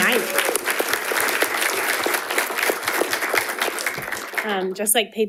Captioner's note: audience applauding